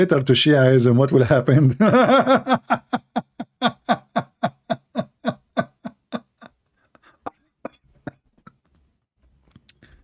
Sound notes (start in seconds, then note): 1.7 Ketawa